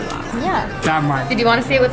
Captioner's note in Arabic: تتمتم